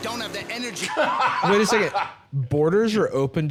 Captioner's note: laughing